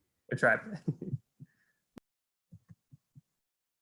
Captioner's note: laughs